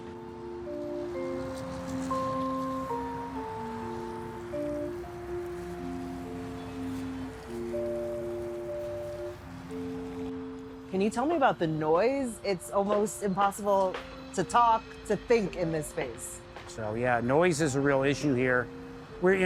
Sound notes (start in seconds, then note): 0.3 tranquil background melody chiming; 4.8 traffic bustling